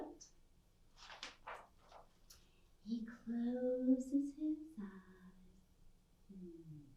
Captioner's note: page Swishes